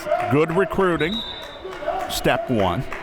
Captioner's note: whistle